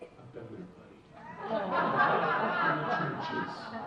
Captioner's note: audience laughing; audience laughs